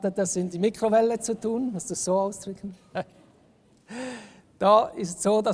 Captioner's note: laughs